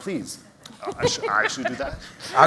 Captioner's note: laughter